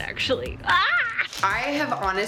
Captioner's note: shouts